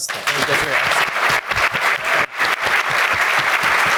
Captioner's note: all applauding